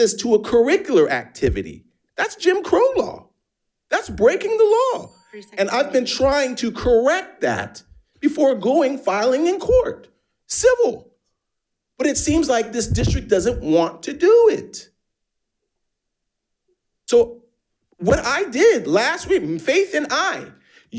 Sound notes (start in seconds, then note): 4.9 bell dinging